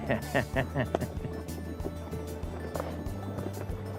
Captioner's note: laughter